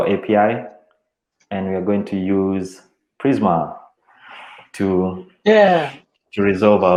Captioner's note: chuckles